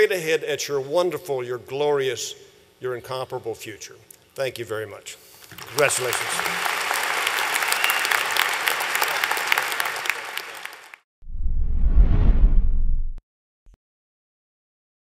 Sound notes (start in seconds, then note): 5.4 applause